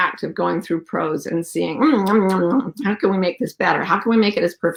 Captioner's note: mimics chewing